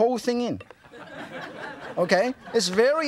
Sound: audience laughs

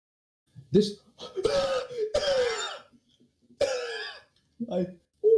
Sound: wheeze!

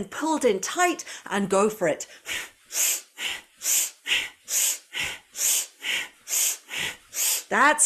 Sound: breathes

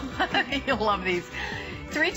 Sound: laughter

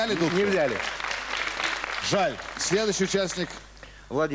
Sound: applause

